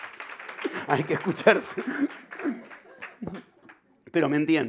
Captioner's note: laughter